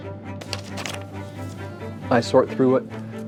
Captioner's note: paper shuffle